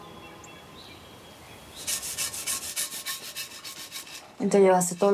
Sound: scrubbing

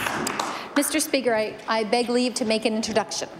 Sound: applause

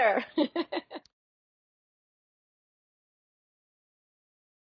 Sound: laughs

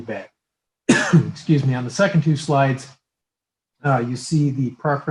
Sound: coughs

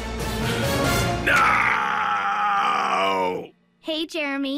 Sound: deep voice

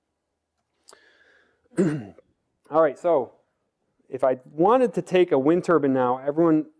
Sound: cough

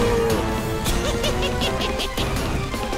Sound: cackle

